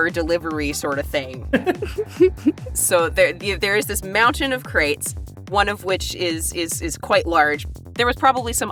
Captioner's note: chuckle